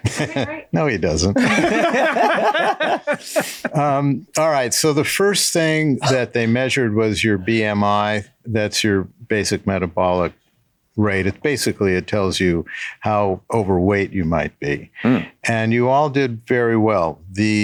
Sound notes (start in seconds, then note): 0.0 laughs; 1.3 all laugh